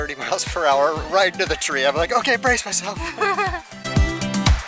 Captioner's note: laughter